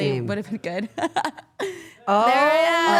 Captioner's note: Liv laughs